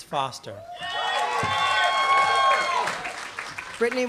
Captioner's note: applause